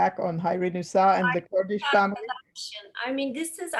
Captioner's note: ? Kurdish ?